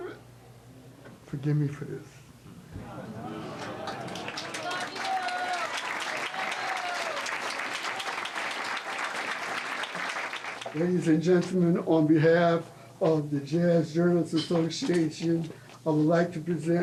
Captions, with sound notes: Forgive me for this. (audience applauding and cheering) Ladies and gentlemen, on behalf of the Jazz Journalists Association, I would like to present Mr. Carter